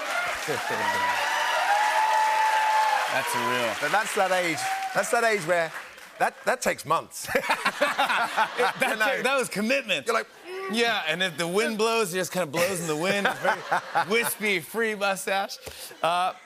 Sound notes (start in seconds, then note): 0.0 cheers and applause; 10.1 grunts